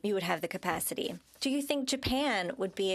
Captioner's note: speaking French